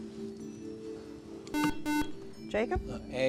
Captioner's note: buzzer